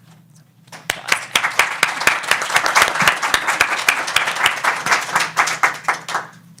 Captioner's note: audience applauds